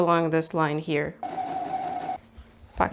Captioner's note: sewing machine noises